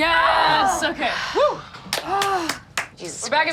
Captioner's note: exhales